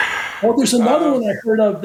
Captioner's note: chuckling